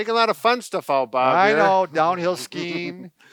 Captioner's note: laughs